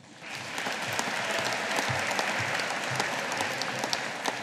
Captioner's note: audience applauding